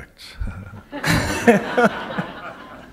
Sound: laughter

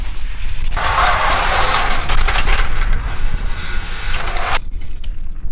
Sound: shovel scraping on concrete; metal device clanks

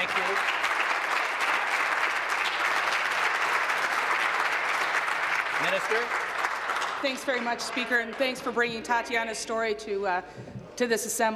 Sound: applause

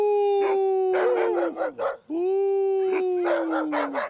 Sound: dogs bark

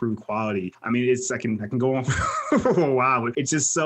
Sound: laughs

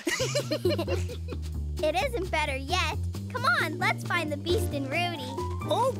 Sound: laughing

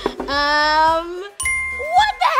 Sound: correct ding noise

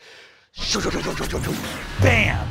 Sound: lasers firing

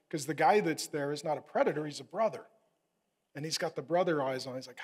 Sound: none

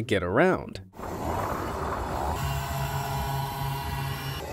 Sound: machine whirring

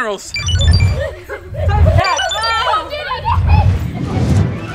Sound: laughing; upbeat music

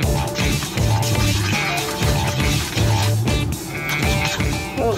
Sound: upbeat music; chopstick scraping

